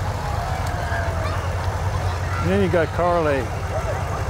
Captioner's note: revving continues